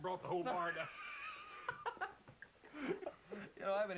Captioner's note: laughter